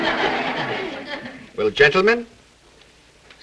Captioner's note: audience laughs